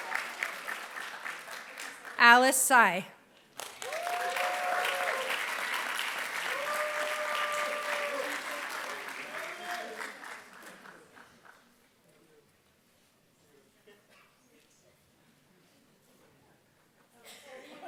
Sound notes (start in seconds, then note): 3.4 applause